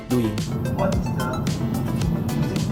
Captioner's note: recording Plays